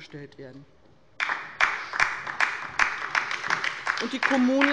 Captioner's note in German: Beifall bei der LINKEN